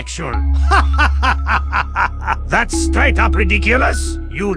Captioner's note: laughs